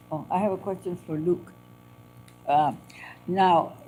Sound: none

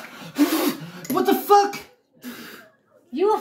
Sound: blowing

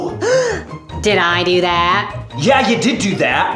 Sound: gasp

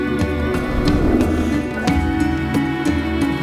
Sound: whoosh

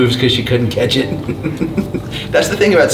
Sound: laughs

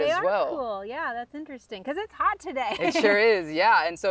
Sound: laughs

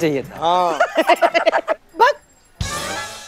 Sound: both giggling

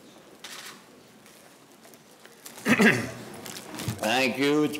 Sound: camera shutter clicks

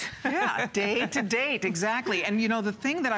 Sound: laughter

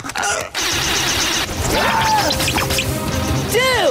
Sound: screaming

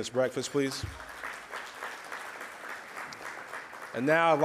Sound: audience applauds

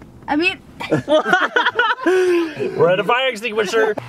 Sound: laughter

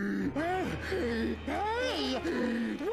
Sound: gasping

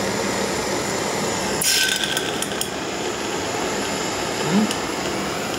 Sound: sound of rapid cooling of the hot glass in water

